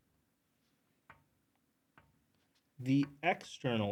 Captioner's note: marker clacks